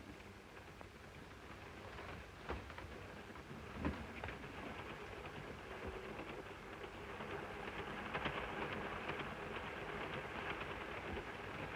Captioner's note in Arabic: صوت خشخشة القطار